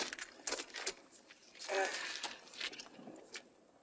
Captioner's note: sighs